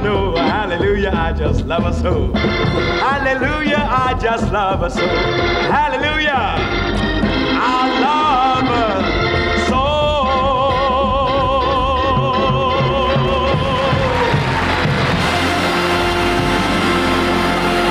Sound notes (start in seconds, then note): 13.0 audience applauds